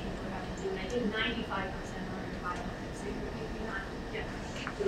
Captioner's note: speaking away from mic